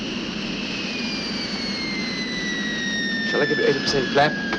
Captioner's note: plane whirring